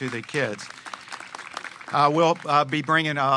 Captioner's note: applause